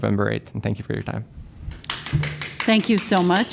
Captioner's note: applause